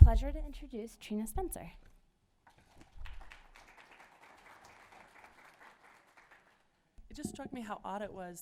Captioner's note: applause